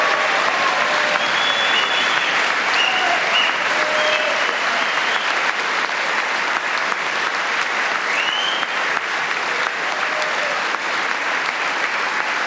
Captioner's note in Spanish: gritos